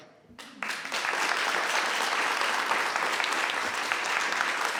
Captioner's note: audience applauds